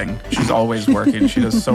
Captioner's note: Adelaide laughs